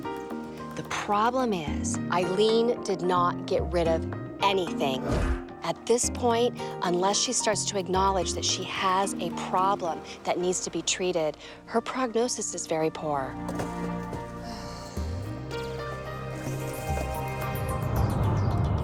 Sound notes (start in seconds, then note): 14.3 sighs